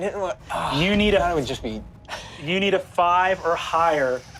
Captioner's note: laughs